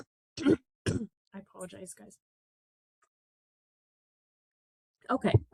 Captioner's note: clears throat